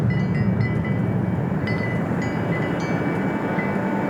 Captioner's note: bells jingling